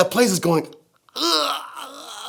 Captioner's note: groans